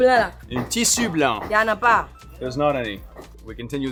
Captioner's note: speaking in foreign language; both speaking in foreign language